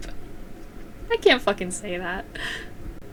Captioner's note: laughing